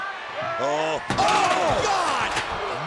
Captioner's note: body thudding